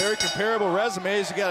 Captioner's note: bell